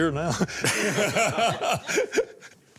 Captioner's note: laughter